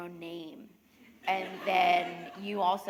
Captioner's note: laughter